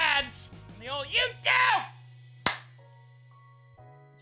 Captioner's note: claps